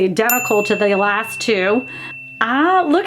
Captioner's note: bell dings